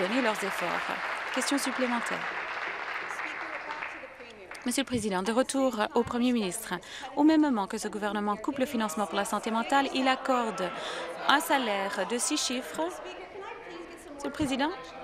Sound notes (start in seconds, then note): 3.6 applause